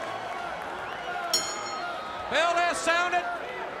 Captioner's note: crowd chatter; bell ringing